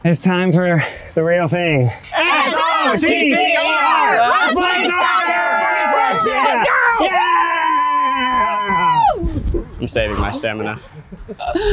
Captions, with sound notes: - It's time for the real thing. (group chants) (group cheers) - I'm saving my stamina.